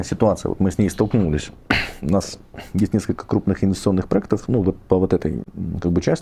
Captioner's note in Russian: откашливается